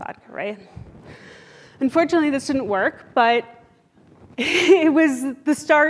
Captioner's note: laughs